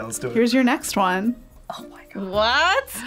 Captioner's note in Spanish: susurra